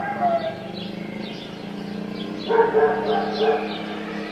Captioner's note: traffic roars; dog barks